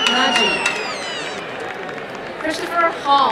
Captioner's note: applause and cheering